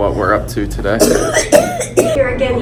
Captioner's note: coughing